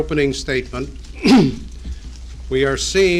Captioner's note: Ford clears his throat